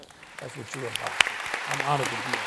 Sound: applause

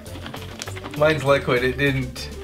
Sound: slime shakes

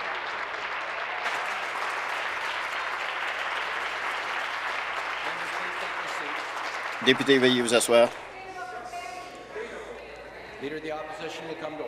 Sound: applause

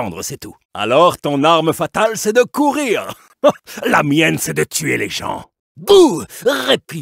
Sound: laughs

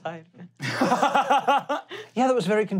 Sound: laughing

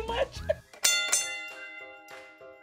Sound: laughs; bell rings

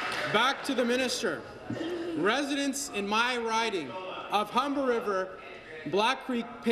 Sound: applause

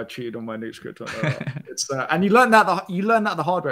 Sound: laughs

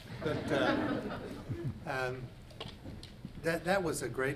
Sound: audience laughs

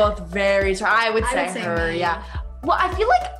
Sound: murmurs

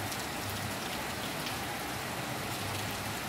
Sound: rain Sounds

